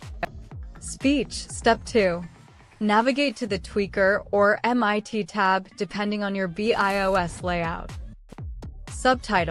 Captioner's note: speech